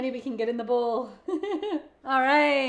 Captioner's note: chuckles